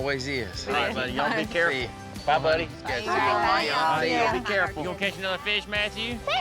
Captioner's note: all clamoring to leave